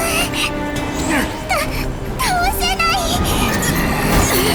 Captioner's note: sob